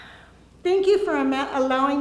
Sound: sighs

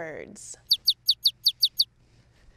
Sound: birds chirping

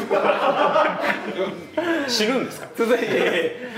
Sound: laughs

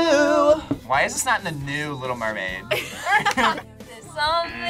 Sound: laughs

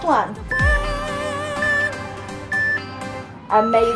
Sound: timer beeping

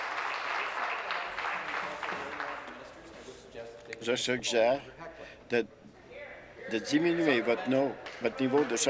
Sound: applause

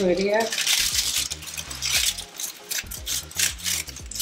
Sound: leaves rustling

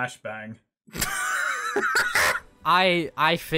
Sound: cackling

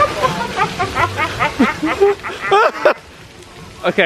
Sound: group laughing

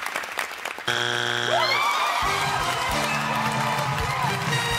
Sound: buzzer

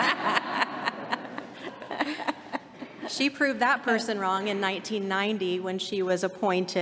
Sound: laughter

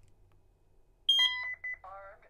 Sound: keypad beeps

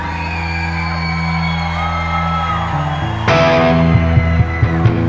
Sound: applause

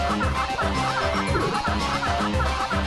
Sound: burps

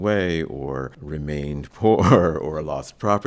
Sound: laughs

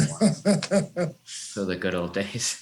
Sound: laughs

